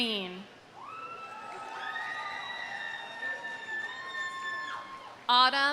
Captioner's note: audience cheering; audience applauding